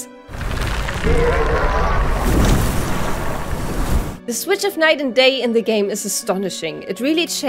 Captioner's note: giant crab screech